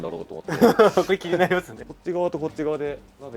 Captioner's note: laughs